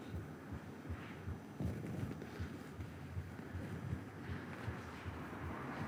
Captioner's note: heavy breathing